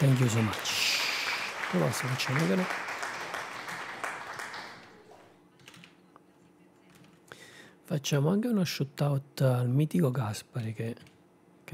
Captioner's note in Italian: Applauso